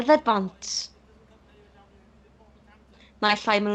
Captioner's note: chatter on the street